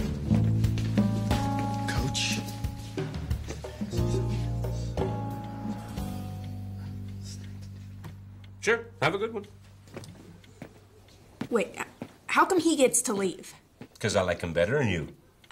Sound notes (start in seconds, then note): 3.6 whispers